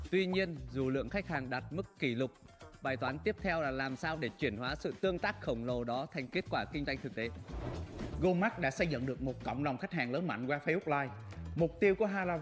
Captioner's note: speaking another language